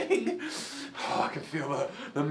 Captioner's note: hougghhhh